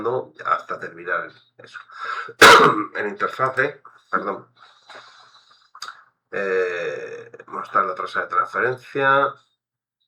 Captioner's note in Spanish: carraspeo